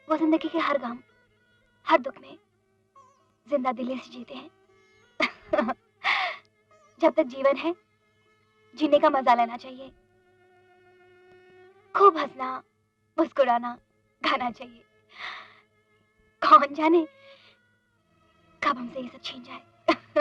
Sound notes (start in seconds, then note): 5.2 chuckles